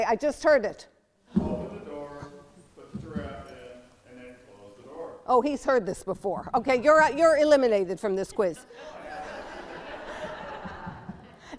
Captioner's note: laughter